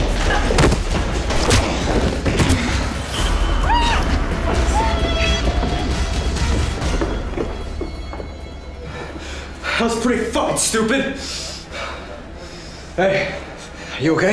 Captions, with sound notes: [thudding] [punching] [screaming] - That was pretty fucking stupid! Hey, are you okay?